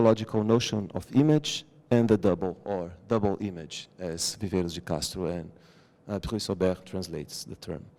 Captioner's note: non-english